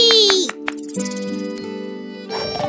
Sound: clapping hands; snoring

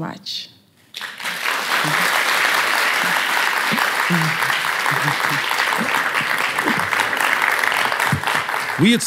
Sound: applause

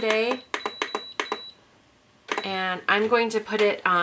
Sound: beeping

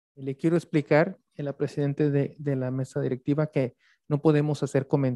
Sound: speaks Spanish

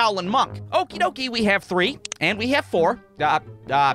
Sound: click!

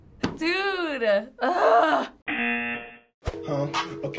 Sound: laughs; buzzer; groans

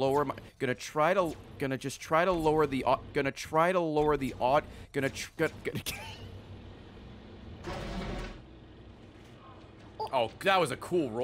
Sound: laughs

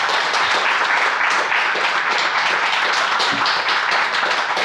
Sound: audience applauds

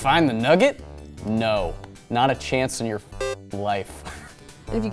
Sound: video game beeps

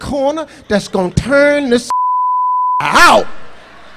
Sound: beep

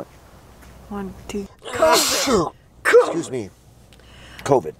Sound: coughs

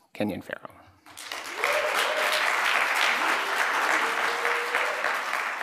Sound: applause, cheering

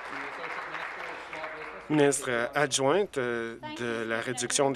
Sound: applause

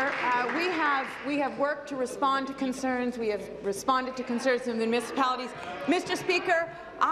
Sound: applause

